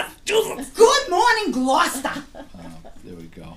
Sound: voiceover

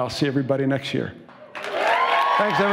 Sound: cheers and applause

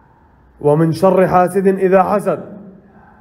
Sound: reciting

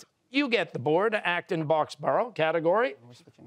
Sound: none

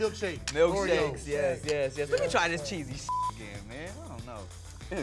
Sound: beep

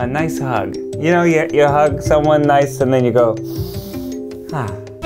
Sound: sniffs; man sighs

